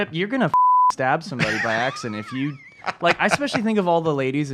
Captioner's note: laughs